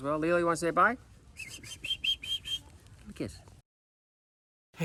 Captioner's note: whistles